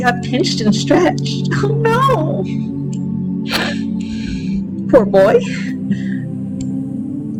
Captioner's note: laughter